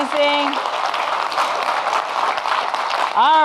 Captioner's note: audience clapping